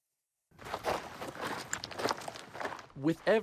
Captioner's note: footsteps crunching